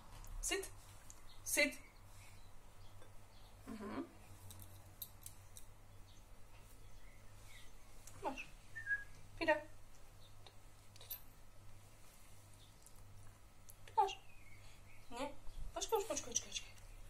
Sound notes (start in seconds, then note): 8.7 whistling